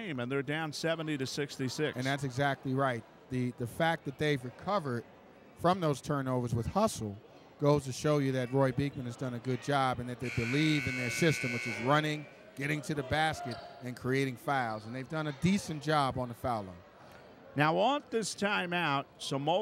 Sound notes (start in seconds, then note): 10.2 buzzer buzzes